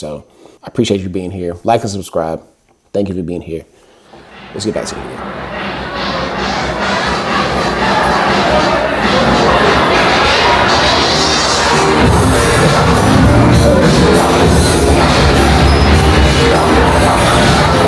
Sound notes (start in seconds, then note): 4.1 crowd Cheering; 4.1 upbeat Music